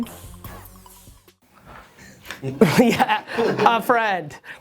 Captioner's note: giggles